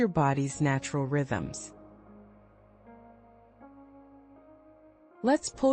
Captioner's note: pause